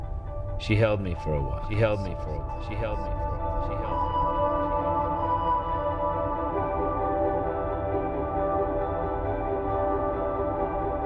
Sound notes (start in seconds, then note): 1.2 echoing